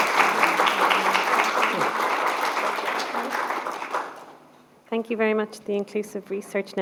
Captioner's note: applause